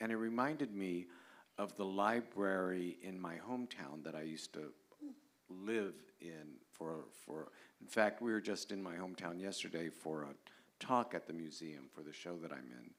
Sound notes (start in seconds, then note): none